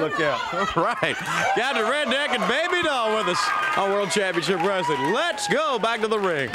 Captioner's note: laugh